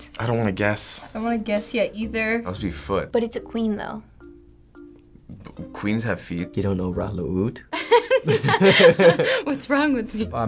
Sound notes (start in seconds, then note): 7.8 laughing